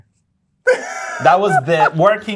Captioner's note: laughter